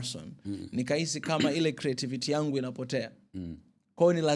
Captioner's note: clearing throat